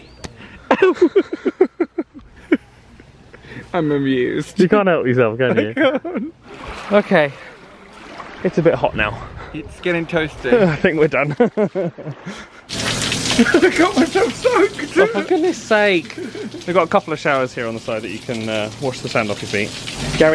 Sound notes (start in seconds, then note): 0.2 hand slaps; 0.4 laughs; 13.2 laughs; 13.3 water splashing